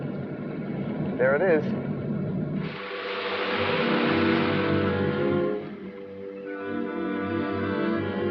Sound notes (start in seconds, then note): 2.4 sound of running engine; 7.0 suspenseful music